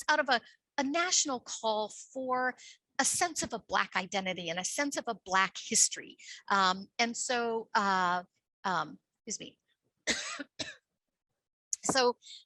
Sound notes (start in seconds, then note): 10.0 coughs